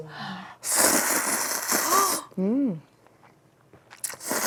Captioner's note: noodle slurping ASMR